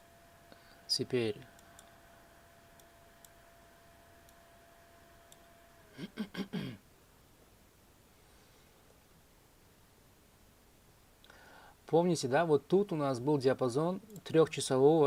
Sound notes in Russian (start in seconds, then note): 5.9 откашливается